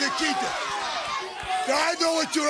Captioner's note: crowd chatter